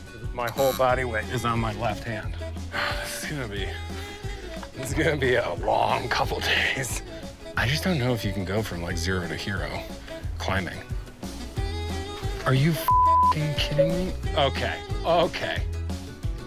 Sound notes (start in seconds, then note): 12.8 beep